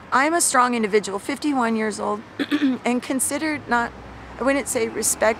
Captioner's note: coughs